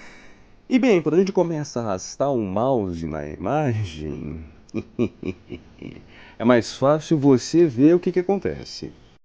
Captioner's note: evil laugh